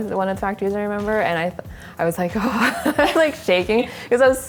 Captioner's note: laughs nervously